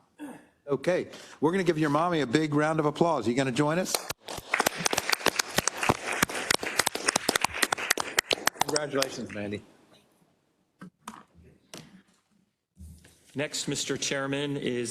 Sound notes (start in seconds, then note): 3.9 applause